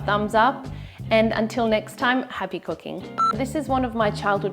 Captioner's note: screen beeps